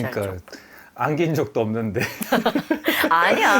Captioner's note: laughs